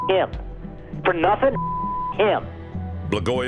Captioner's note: beep